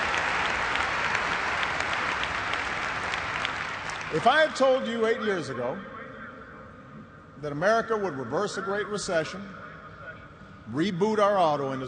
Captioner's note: cheers and applause